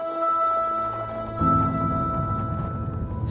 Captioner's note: footsteps crunching in snow